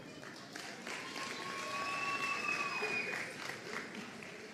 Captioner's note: audience applauding